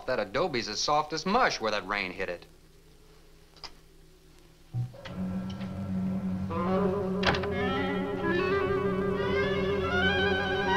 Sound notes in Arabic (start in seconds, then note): 5.1 موسيقى أوركسترالية مشوقة; 7.2 يغلق الباب